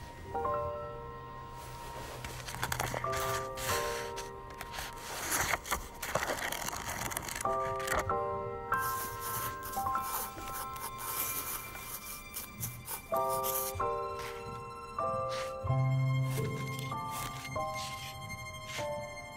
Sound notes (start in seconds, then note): 0.2 gentle music; 8.7 pencil scratching